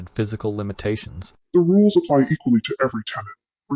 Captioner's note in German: verzerrt